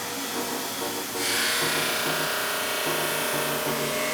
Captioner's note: grinding